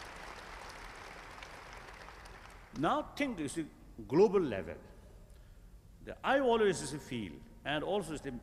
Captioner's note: applause